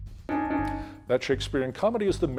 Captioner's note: timer beeping